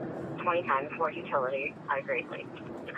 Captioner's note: radio chatter